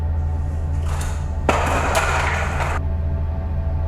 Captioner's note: stool falls over